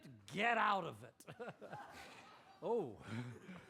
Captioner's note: chuckles